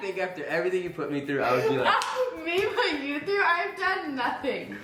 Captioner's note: laughs